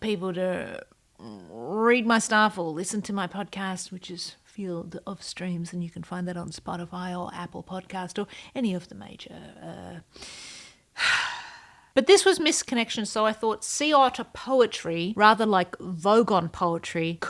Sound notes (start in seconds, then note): 10.9 sigh